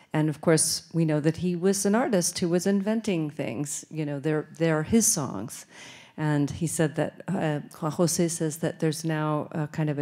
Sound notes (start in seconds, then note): none